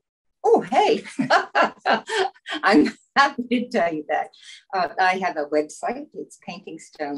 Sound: laughs

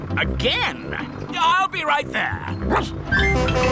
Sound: barks; horn honking

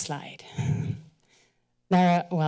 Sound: steady breathing

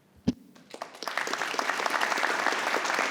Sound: applause

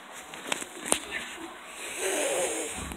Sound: inhales nasally

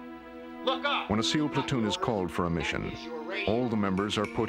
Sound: voiceover

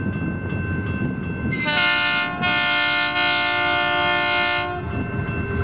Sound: loco Horns

